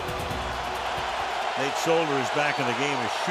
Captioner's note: cheering